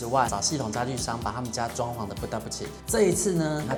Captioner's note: in Taiwanese